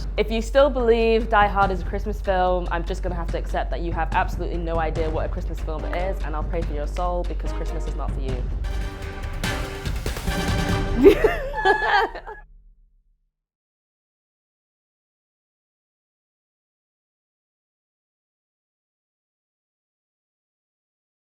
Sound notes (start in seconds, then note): 9.2 upbeat music; 11.0 laughing